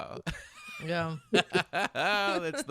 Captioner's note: laughing